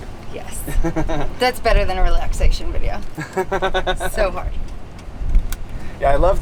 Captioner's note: laughs